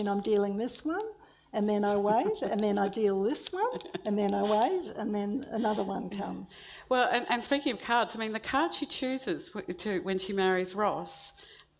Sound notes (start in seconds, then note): none